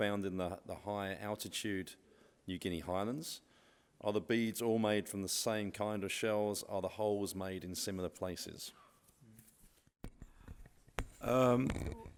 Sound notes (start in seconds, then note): none